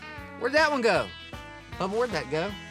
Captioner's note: imitates kaley's voice